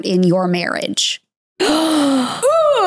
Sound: gasps

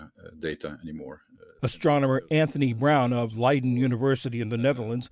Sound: voice-over

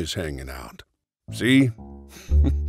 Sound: laughing

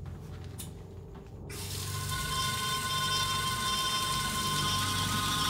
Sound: shower running; ominous music

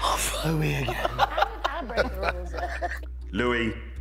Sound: laughing

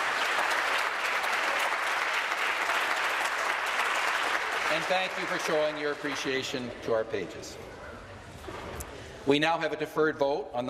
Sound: applause

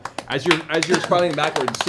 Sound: applause

